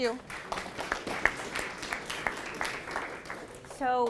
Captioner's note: applause